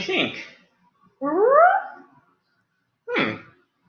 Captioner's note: Wolfie howls